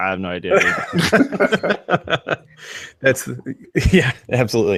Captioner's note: everyone laughs